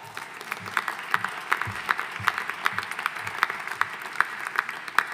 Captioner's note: audience applauding